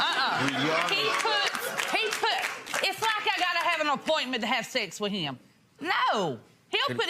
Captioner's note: audience laughs and claps